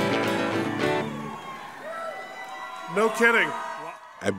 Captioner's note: crowd cheering